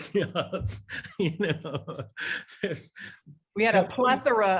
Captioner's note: Larry laughs